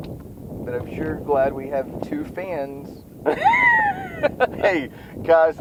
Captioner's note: laughs